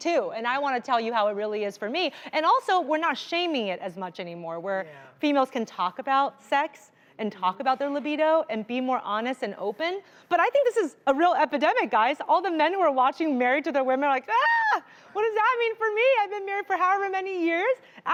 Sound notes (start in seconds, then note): 14.3 screams